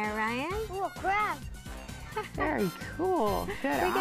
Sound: laughs

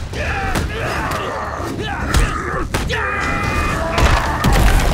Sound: grunting

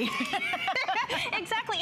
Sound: laughter

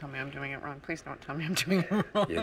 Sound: laughs

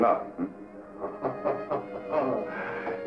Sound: chuckling

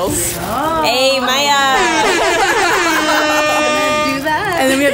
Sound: horns sounding

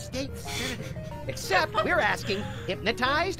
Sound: laughs

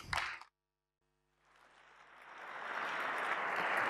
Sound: applause

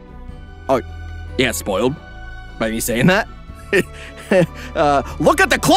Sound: chuckles

